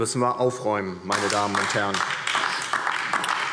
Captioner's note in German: Beifall DIE LINKE